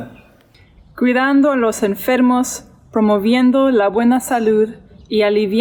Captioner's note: speaks in foreign language